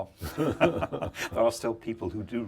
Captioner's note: laughing